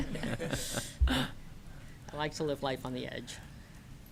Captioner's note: laughter